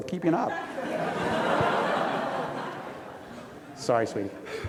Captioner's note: audience laughs